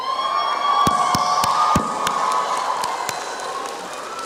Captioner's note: applause and cheering